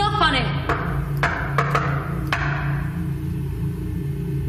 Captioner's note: knocking on door